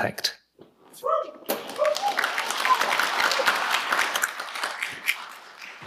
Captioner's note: audience cheering and clapping